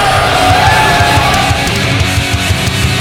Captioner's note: cheers